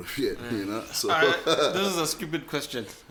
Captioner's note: laughs